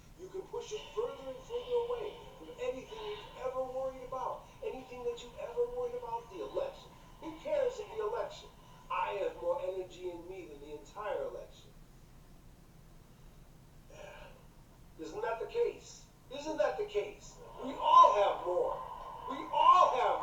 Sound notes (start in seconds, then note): 12.1 the speaker breathes